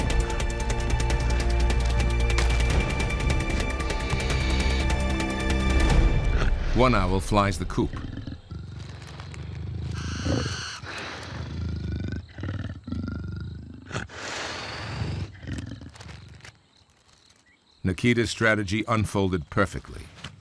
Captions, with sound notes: One owl flies the coop. (Nikita growling) Nikita's strategy unfolded perfectly.